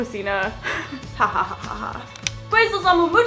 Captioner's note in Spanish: risas